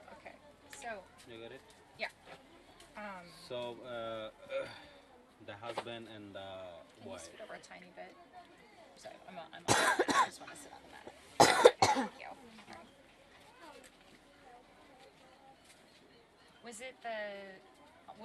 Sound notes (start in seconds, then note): 11.4 coughs